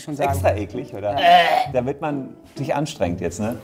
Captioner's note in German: Würgen